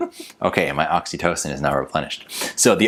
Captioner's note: laughs